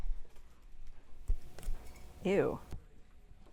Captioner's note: unsticking noise